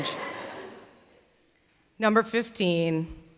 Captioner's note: laughter